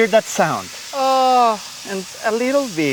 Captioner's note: sizzling